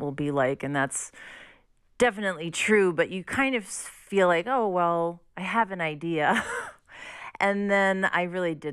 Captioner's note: laughter